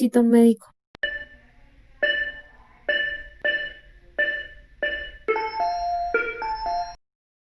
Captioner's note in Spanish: sonido frecuencia cardíaca